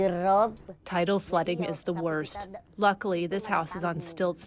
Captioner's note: through translator